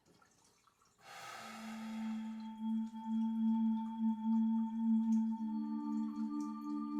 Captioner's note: Aiden exhaling; brooding music